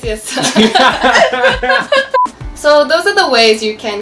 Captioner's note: loudly laughing